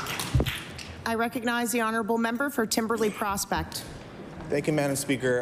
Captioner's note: applause